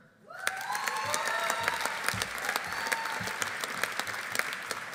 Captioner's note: audience cheering; audience applauding